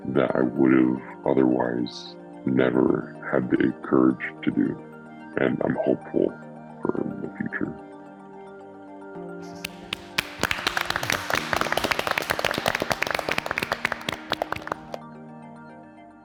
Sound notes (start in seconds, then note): 8.0 gentle inspirational music continues; 9.4 participants applauding